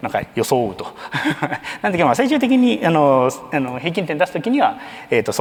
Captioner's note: chuckles